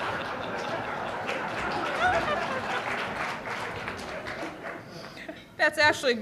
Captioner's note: laughter; applause